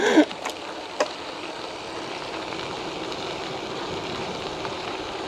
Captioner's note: laughing